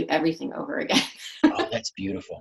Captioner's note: laughs